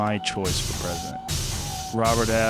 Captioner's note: servo motor sounds